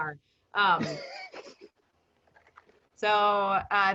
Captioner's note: laughing